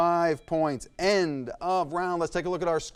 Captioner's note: timer dings